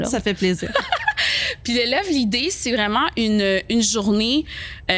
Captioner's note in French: rires